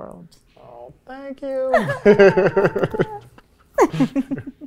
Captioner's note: laughing